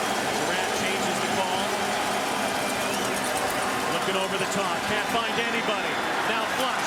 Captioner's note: cheering and Applause